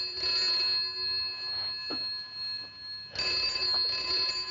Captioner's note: ringing Continues